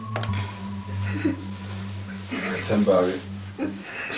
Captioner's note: Sindisiwe sobbing